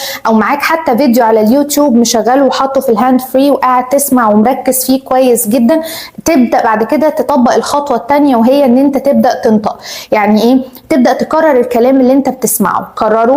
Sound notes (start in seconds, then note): 8.9 speaking